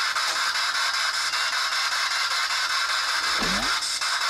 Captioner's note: beep equipment